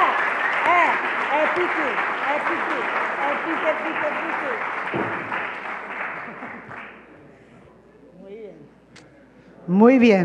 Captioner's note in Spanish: Aplausos